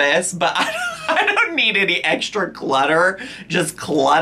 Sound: laughs

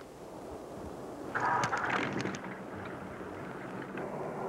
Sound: engine sputtering

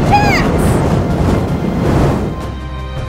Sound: fire blast SFX continues

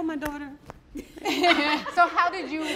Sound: all laugh

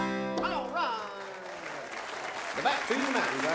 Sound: audience cheers

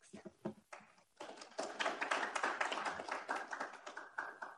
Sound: audience applauds

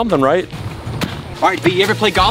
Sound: stomps loudly

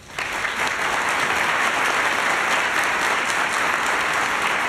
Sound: applause

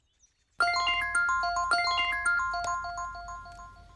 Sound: mobile rings

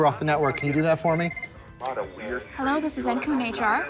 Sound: phone ringing

